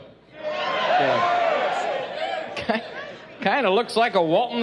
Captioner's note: cheering